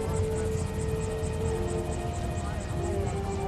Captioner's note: indistinct chatter